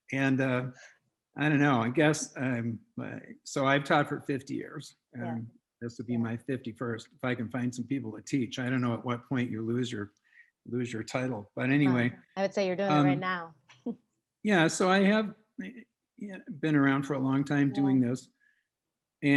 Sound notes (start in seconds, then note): 14.5 chuckles